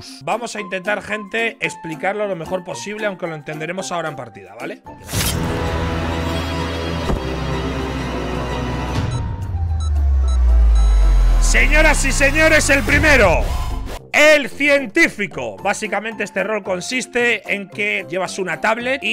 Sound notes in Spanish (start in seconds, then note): 5.3 Música de suspense; 9.7 Pitido largo; 9.7 Pitidos intermitentes